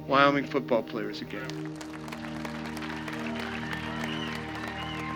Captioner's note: audience applauding